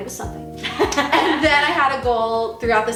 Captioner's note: laughing